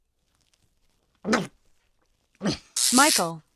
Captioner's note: chokes